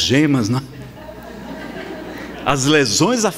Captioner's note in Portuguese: risadas